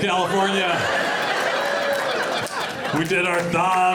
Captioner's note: audience laughing